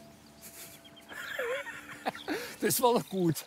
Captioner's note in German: Lacht